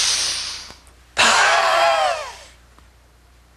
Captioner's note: breathing; screaming